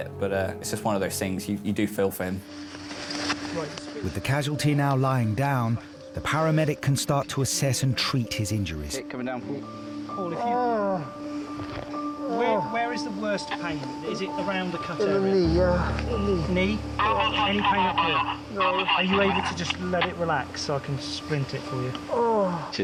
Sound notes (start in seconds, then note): 8.8 people chattering; 10.1 patient groaning